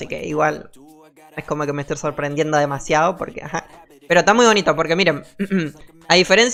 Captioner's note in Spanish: carraspeo